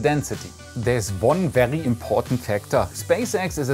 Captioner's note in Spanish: con acento alemán